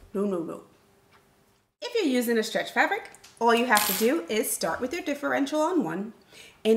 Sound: none

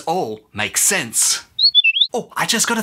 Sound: chirp

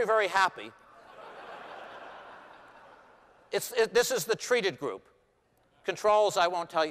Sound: laughter

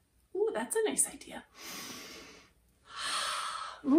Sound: inhales and exhales deeply

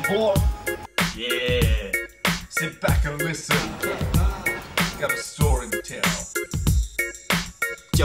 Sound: laughs

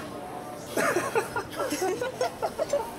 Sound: laughing

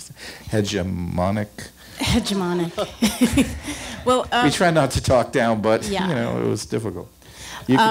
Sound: laughs

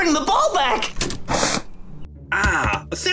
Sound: lever clicks

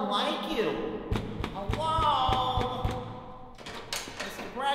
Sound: knocking

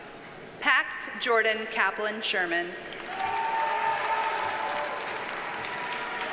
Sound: audience cheers and applauds

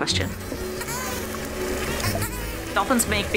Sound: dolphin whistling

